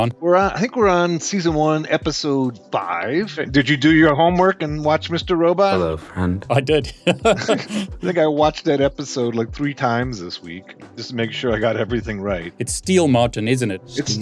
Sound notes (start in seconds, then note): 6.4 chuckling